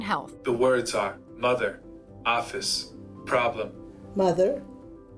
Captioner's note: electronic Voice